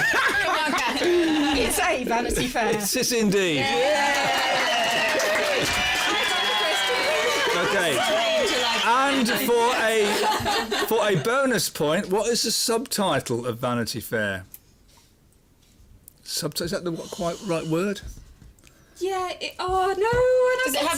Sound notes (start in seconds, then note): 4.0 clapping; 6.3 cheers